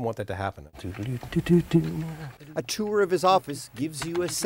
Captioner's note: hums